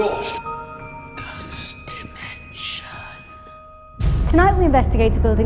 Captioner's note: ethereal Voice